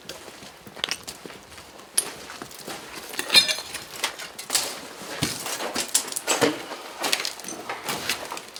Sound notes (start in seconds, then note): 3.1 glass clinking